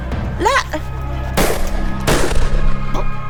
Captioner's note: gun Shoot